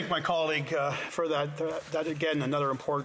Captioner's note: speaking indigenous language